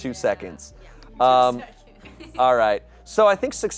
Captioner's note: laughs